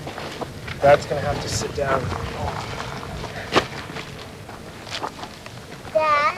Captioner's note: groans